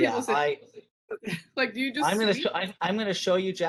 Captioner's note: chuckles